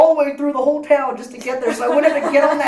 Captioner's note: laugh